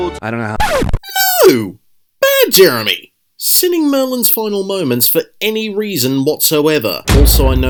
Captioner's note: record scratch